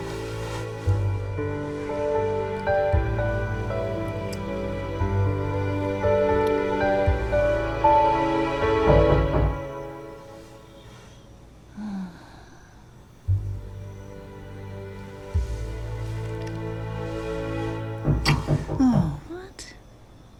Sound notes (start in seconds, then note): 8.8 knock on door; 18.0 knock on door